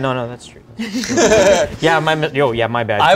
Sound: laughter

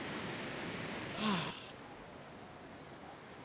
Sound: sighs

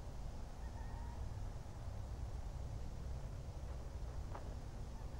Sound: wind howling

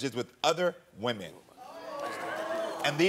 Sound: audience ohs

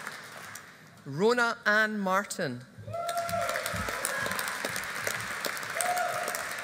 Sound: audience applauding

